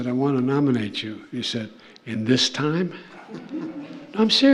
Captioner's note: laughter